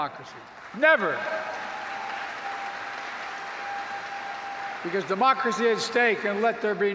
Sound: applause

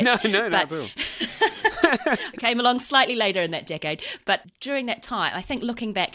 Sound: laughs

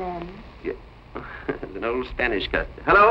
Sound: laughing

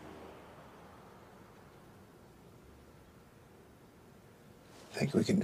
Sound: none

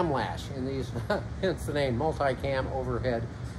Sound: chuckles

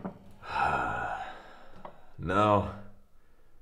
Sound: sighing

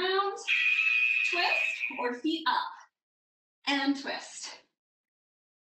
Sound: alarm blares

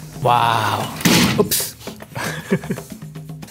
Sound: door slams; chuckles

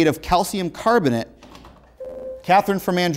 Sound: beeping

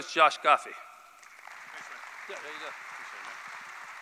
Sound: applause

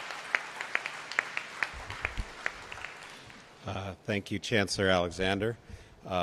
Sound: applause

